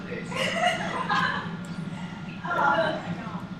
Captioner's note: laughs